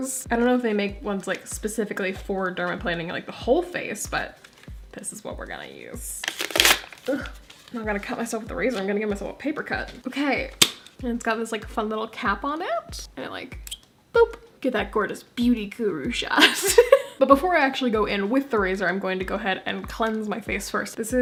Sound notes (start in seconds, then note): 6.2 cardboard tearing; 16.4 laugh